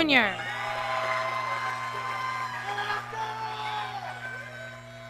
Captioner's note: audience cheering